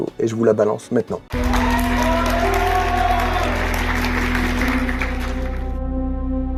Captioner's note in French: Applaudissements